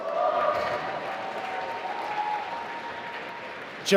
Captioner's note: applause